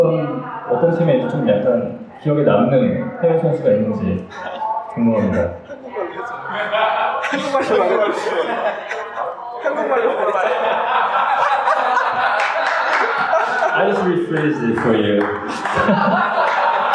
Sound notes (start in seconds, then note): 9.0 hahahaha; 12.0 clap clap clap